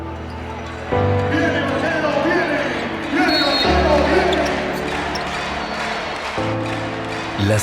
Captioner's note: announcer chanting